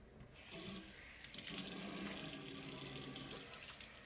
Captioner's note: water splatters